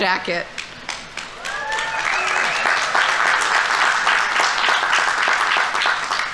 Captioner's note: audience applauding; audience members cheering